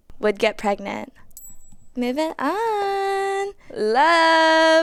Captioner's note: object clinks